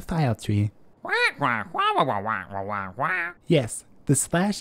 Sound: squawk

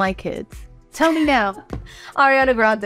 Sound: Lucy laughing

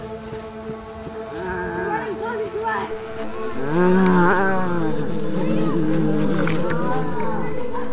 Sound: zombie noises

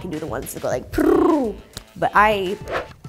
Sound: mimics card shuffling

